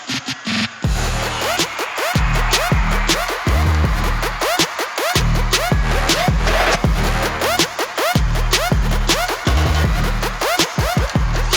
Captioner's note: crowd cheering